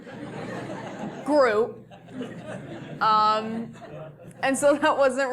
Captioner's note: laugh